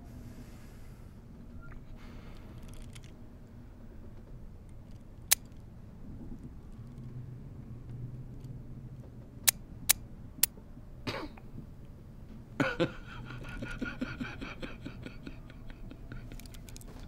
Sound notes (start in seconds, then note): 5.2 trigger clicking; 9.4 trigger clicking; 12.5 Macon chuckling; 14.2 Macon laughing